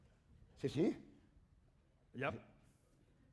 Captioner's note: speaking spanish